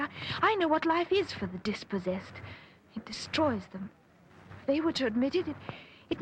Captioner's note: none